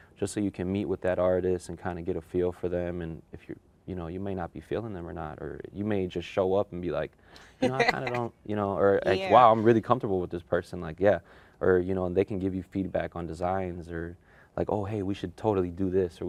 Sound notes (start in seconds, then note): 7.6 laughs